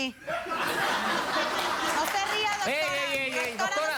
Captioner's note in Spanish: Risas